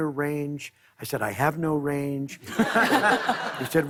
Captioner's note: laughter